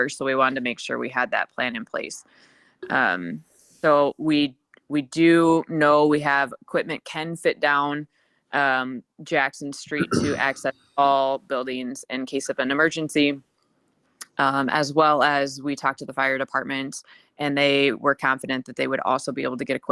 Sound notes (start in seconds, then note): 10.0 attendee clears throat